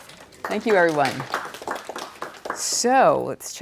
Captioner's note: applause